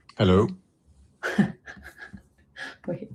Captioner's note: laughter